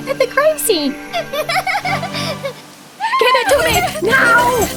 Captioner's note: giggling